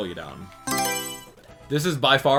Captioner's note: Mario Selection Sound